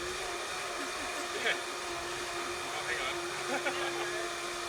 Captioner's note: laughter